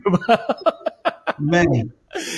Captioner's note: laughs